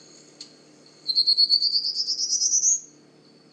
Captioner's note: Prairie warbler singing